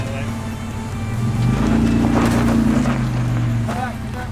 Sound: engine revving

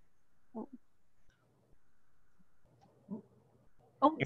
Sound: audio lost

